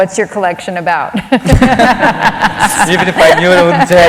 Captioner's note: laughter